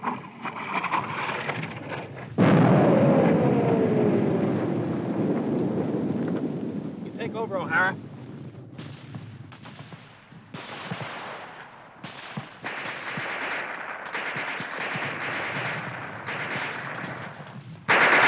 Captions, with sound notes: (bomb exploding) You take over, Ohhara.